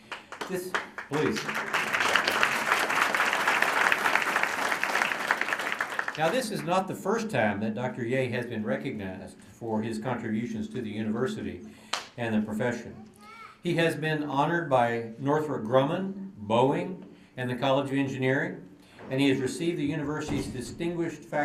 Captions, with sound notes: [APPLAUSE] THIS-- PLEASE. [APPLAUSE] NOW, THIS IS NOT THE FIRST TIME THAT DOCTOR YEH HAS BEEN RECOGNIZED FOR HIS CONTRIBUTIONS TO THE UNIVERSITY AND THE PROFESSION. HE HAS BEEN HONORED BY NORTHROP GRUMMAN, BOEING, AND THE COLLEGE OF ENGINEERING. AND HE HAS RECEIVED THE UNIVERSITY'S DISTINGUISHED